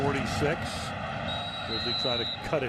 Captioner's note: whistle blows